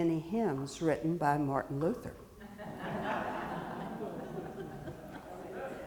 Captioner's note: audience laughing